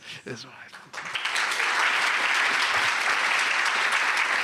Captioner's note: applause